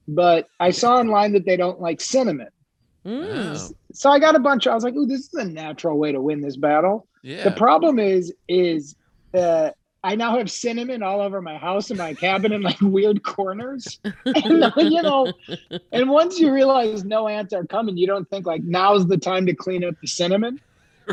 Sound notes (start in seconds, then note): 13.6 laughing